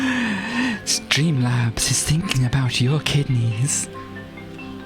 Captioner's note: in sinister voice